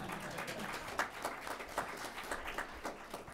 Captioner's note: laughter and applause